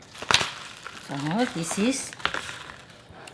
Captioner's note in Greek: ήχος σπασίματος